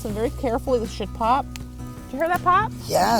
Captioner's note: strawberry stem popping